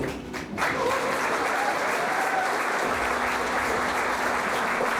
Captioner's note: audience applauding